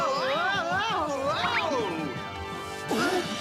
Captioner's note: both grunt